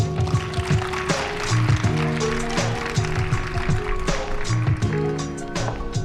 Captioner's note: applause